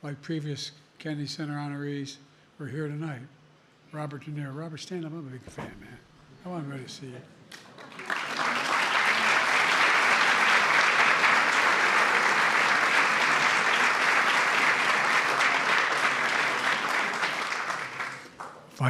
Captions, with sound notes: like previous Kennedy Center honorees who are here tonight. Robert De Niro. Robert, stand up. I’m a big fan, man. I want everybody to see you. (Applause.)